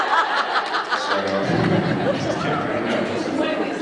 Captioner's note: laughs